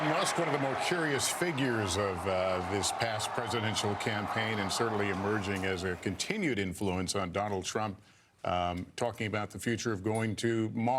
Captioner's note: cheers and applause